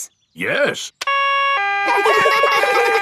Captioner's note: siren wailing; siren stops; kids laugh